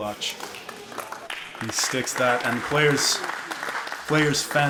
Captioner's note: applause from spectators